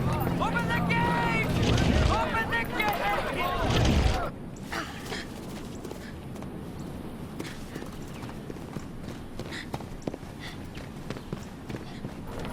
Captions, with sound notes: Open the gate! (gate rumbling) Open the gate! (grunting) (running footsteps)